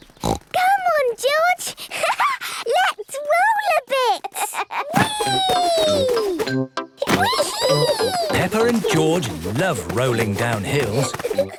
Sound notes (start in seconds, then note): 0.2 snorts; 3.9 laughs